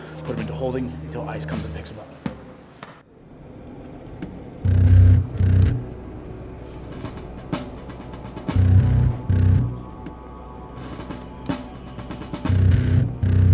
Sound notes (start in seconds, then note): 3.8 vehicle sounds on the road; 7.1 ♫ Dramatic music plays ♫